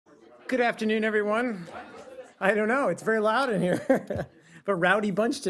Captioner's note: laughter